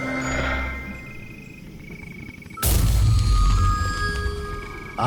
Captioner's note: blast